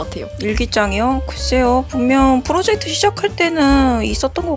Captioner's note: none